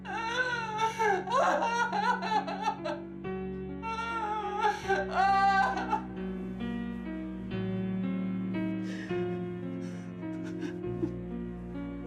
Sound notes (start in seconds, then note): 8.6 sullen music continues; 8.8 sobbing